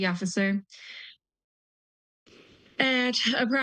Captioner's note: pause